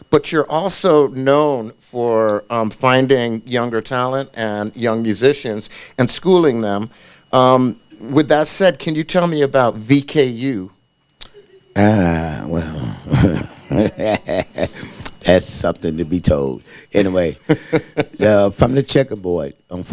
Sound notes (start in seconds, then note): 11.2 laughs